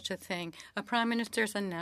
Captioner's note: speaking French